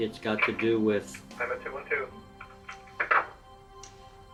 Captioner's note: intercom click